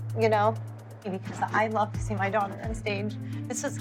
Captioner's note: voice breaking